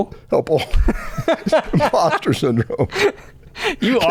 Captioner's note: laughter